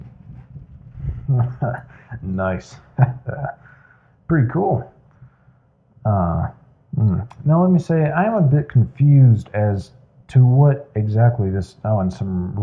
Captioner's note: chuckles